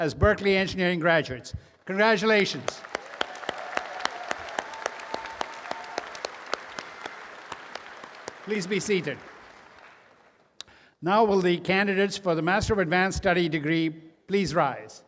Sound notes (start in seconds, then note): 1.9 applause and cheering